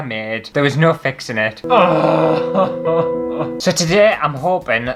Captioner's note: hysterical Crying